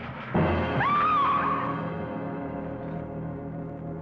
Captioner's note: Barbara screaming